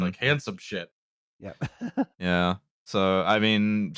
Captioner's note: laughs